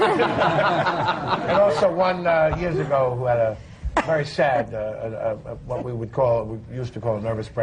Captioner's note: laughter